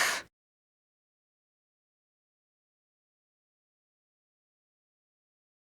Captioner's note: silence